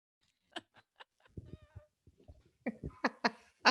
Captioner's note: laughs